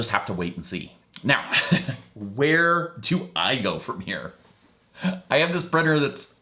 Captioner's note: laughing